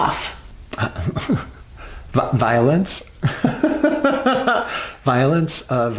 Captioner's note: laughs